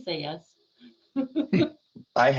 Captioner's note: chuckling